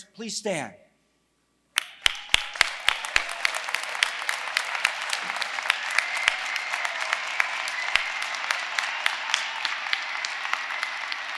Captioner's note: applause